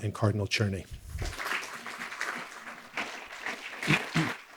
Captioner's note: audience clapping